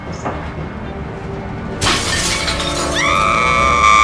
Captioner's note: window breaks; screaming